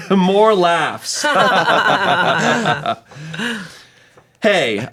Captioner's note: everyone chuckles